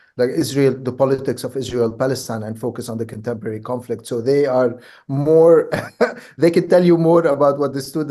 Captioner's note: laughs